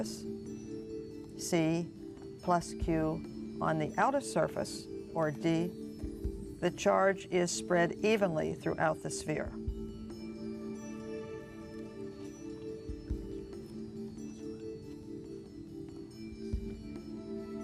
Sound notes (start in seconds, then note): 10.4 whispering